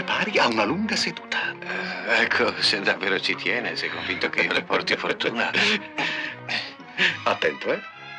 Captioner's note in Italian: risate